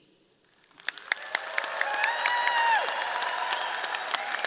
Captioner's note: audience applauding